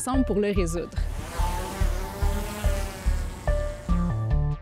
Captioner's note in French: moteur de drone